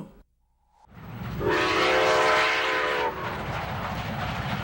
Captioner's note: voiceover; steam whistle